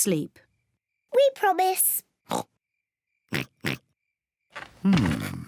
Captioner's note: oinks